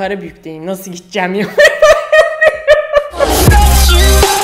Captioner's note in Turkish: hahhahah